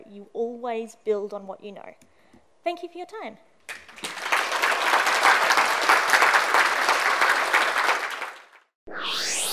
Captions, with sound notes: you always build on what you know. Thank you for your time. (applause)